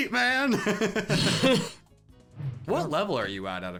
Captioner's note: laughing